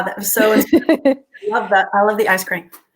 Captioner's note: laughing